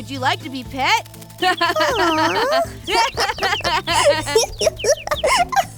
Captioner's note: laughter